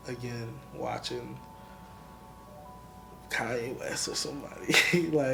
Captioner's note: laughs